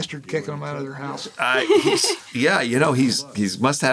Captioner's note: laughs